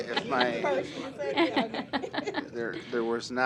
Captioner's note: laughter